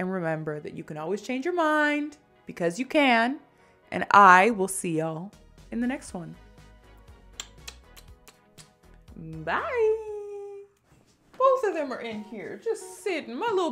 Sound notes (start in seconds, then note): 7.3 kisses